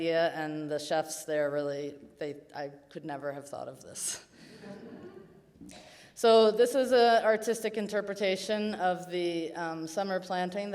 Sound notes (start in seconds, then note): 4.6 audience chuckles